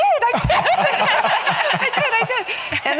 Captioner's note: audience laughing